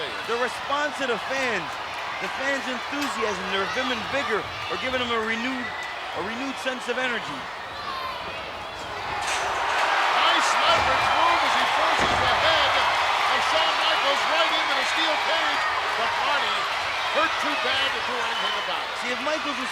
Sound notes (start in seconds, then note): 8.7 cage rattles; 9.6 audience cheering